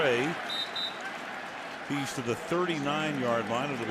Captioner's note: whistle